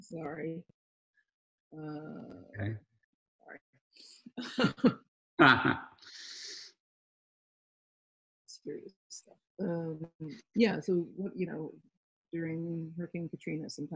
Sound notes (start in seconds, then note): 4.4 both laughing